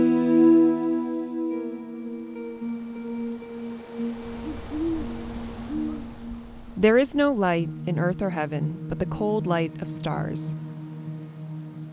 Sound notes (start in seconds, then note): 1.9 waves crashing; 3.3 owl hooting